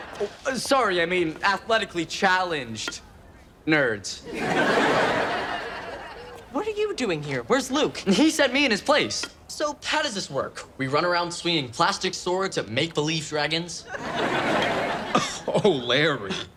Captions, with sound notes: Sorry I mean, athletically challenged nerds. (audience laughs) - What are you doing here? Where's Luke? - He sent me in his place. So how does this work? We run around swinging plastic swords at make believe dragons? - Oh Larry.